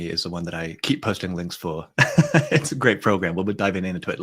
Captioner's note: chuckles